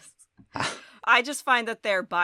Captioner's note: both chuckles